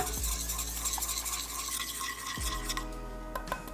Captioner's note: sound of whisk scrapping metal pot